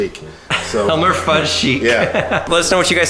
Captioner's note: laughs